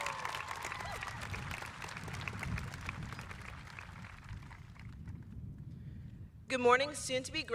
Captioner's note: applause